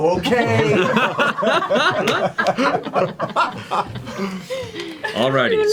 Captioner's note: all laugh